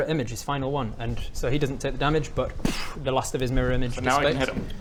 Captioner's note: poof